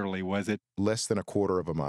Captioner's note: laughs